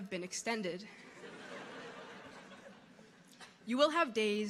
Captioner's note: audience laughing